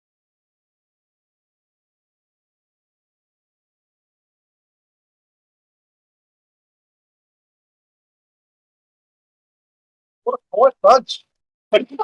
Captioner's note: audio dropout